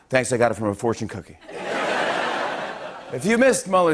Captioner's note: laughter